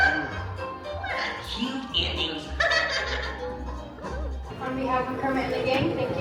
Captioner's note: laughing